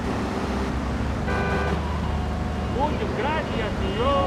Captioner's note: speaking in foreign language